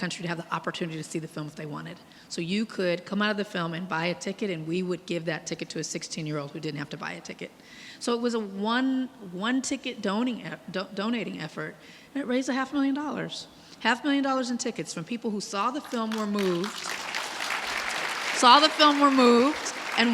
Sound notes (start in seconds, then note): 15.8 audience clapping